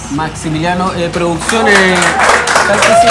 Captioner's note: applause